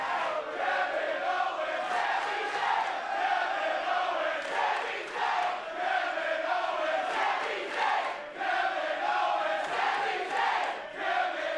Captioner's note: crowd chanting